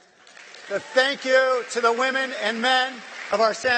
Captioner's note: applause